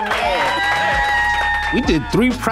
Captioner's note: applause